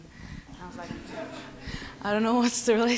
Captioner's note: laughs